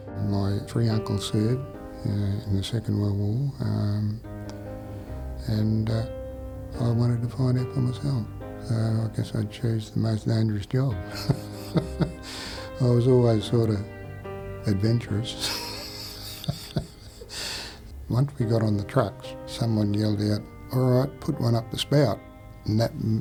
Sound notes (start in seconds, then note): 11.0 giggling